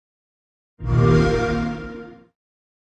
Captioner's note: xbox sound